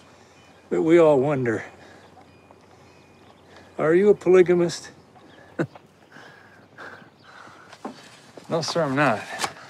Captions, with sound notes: but we all wonder, are you a polygamist? [chuckles] No, sir, I'm not.